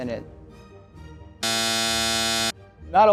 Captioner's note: buzzer blaring